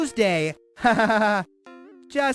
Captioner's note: laughter